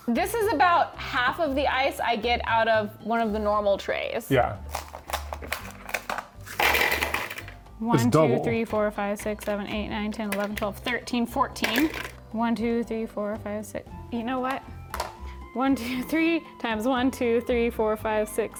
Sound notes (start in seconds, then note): 6.5 ice clinking; 11.7 ice clinking